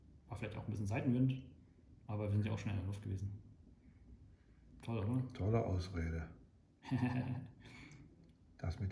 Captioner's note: laughter